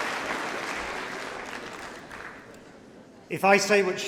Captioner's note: applause